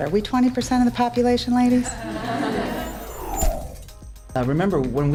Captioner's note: laughter